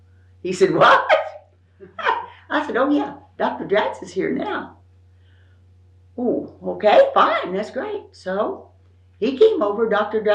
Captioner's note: laughs